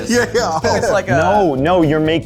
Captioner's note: laughs